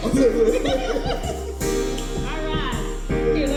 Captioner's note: all laugh